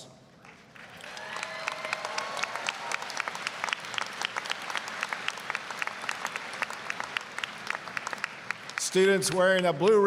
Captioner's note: applause, cheering